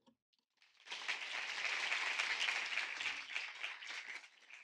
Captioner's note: audience clapping